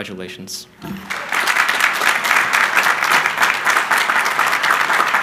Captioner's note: crowd applauding